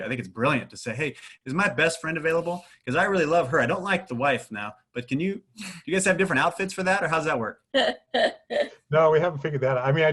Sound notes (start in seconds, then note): 7.8 laughs